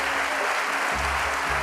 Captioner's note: applause